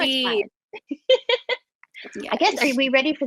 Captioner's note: laughter